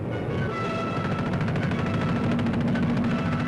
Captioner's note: planes firing